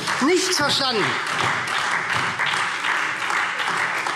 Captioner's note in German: Beifall SPD und Freie Demokraten